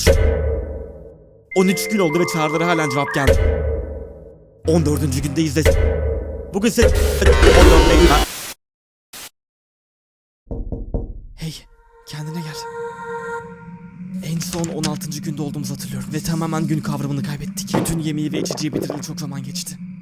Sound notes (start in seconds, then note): 7.0 glitch; 10.5 knock knock